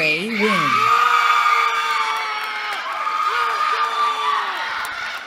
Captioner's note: cheering